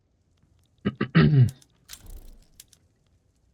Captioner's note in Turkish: öksürme